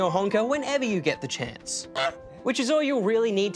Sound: honks

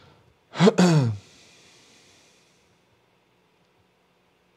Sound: clears throat

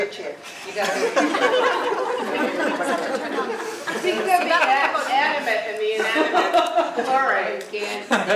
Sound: laugh

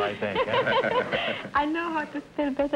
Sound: laughing

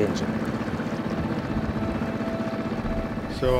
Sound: engine droning; somber music continues

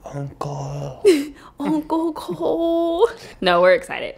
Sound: laughing

